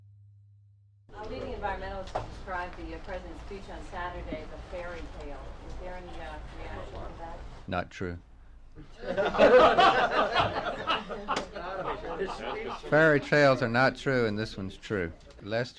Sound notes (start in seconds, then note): 9.0 press pool laughs